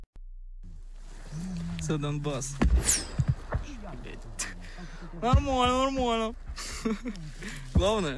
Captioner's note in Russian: свист пули; смеется